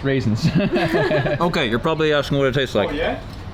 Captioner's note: laughing